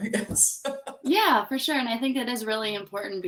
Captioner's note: laughing